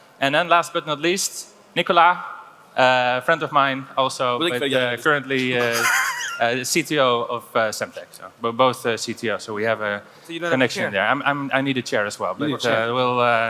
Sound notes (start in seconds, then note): 5.4 laughs